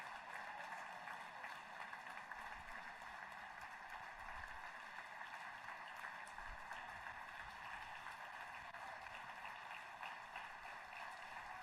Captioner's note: applause